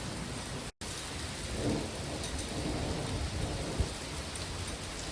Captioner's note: thunder